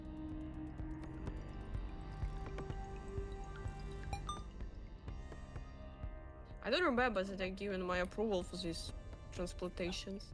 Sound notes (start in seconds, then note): 0.0 tense music; 4.1 machine beeping